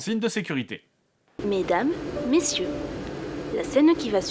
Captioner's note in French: Voix-Off